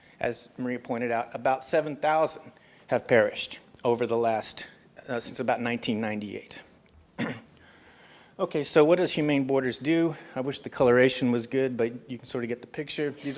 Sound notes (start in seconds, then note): 7.1 cough